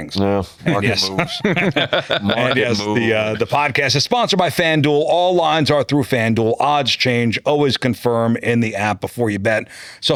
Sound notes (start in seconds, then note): 0.6 laughing